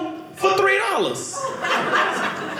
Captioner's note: audience laughing